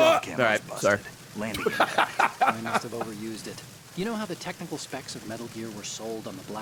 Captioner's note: laughs